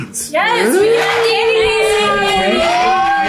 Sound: group shouts and chatters excitedly; children cheer and shout

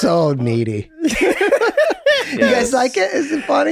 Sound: Charlie and Rob laughs

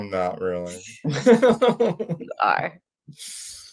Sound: they laugh

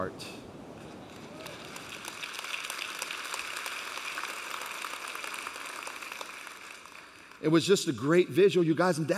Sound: applauding

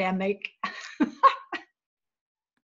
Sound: laughter

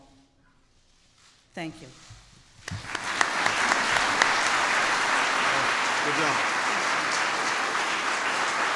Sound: applause

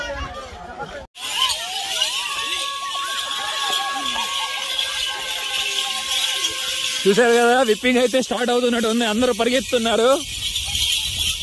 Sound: beating with sticks

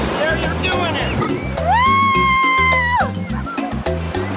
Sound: cheers

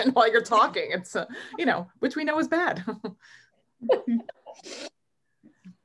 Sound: chuckles

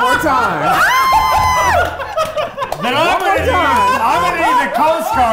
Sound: everyone laughing

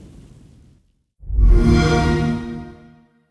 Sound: xbox sound

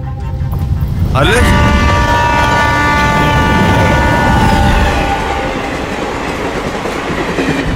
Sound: train Sound

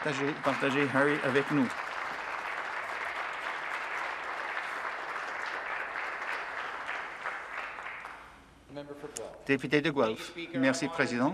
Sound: applause

